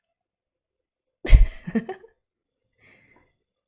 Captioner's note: laughs